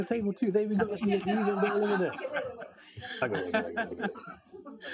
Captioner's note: audience laughing